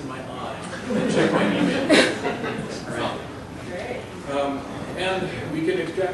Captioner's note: laughter